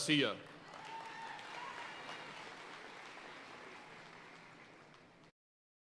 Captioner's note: audience cheering and applauding